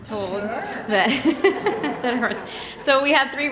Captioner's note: laughter